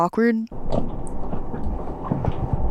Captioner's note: van squeaks; handle clunks